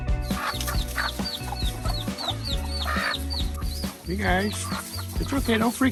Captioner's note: chickens clucking